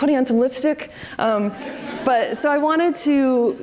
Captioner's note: audience laughs